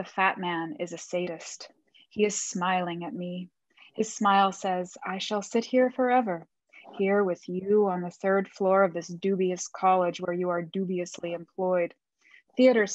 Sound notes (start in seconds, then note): none